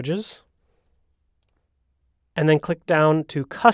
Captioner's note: mouse clicks